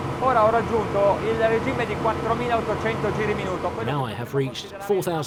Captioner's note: speaking in foreign language